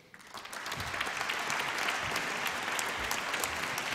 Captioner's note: applause